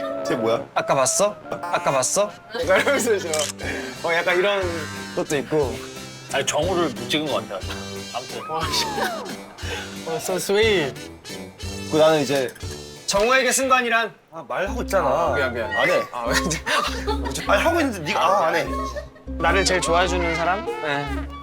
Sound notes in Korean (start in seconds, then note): 1.7 웃음 코드 얘기가 한창인데 / 찰칵